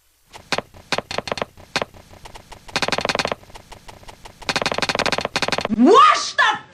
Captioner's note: shuffling ASMR